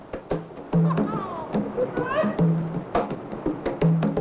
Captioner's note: man yelping; upbeat rhythmic drum music